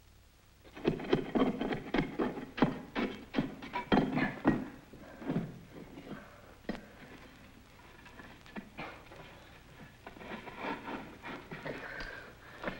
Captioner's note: digging